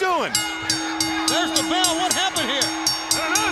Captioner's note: bell ringing